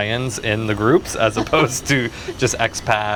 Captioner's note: laughing